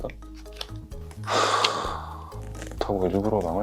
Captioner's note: sigh comes out naturally